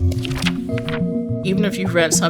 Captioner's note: paper flipping